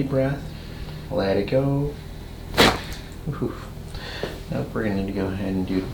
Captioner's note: cracking noise